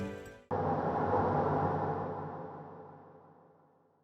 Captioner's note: air whooshing